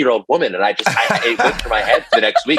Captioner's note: laughter